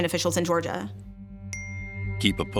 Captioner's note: chime